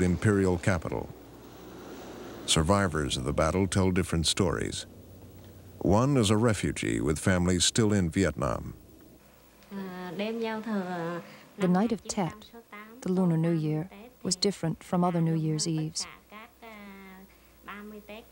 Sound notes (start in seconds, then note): 9.0 speaking Vietnamese